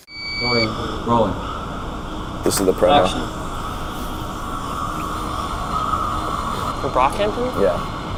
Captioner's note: beeps